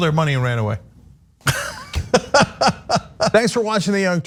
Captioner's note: laugh